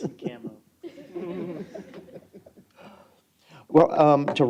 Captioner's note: chuckling